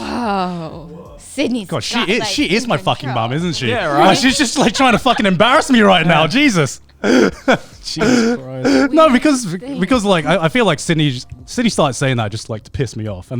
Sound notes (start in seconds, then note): 7.0 laughing